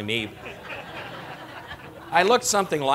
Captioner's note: laughter